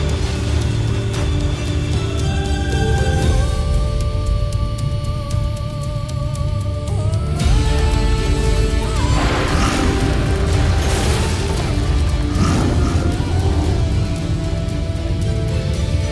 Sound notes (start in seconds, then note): 0.0 music swells; 0.0 water splashing; 9.0 screeching roar; 10.4 thuds, then rumbles; 12.1 guttural roar